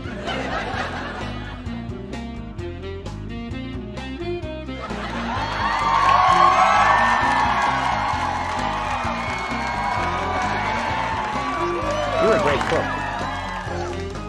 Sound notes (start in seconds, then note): 0.0 detective theme music; 0.0 audience laughing; 1.5 detective theme music; 5.5 audience cheering